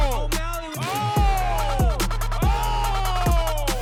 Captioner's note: cheering